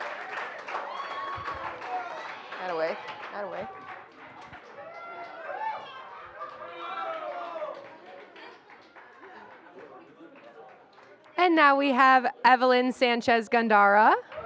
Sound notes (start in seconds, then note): 4.9 indistinct chatter